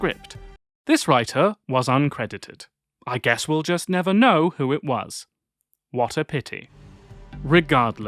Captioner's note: dryly